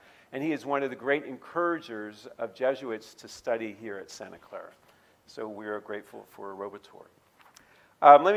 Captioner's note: none